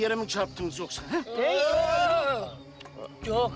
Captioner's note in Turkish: Hep bir ağızdan